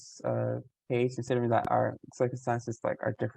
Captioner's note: voice muffling